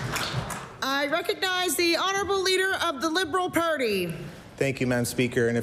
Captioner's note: applause